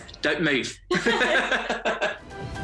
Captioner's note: chuckling